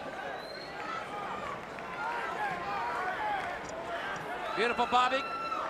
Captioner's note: crowd chatter